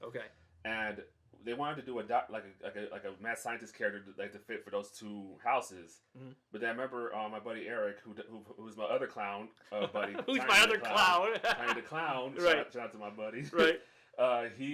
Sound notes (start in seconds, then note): 10.0 laughs